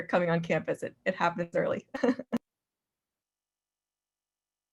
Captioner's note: laughs